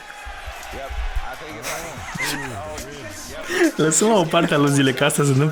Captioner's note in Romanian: Aplauze